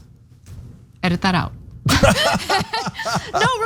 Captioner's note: laugh